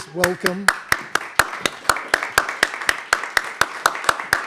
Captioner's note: all applauding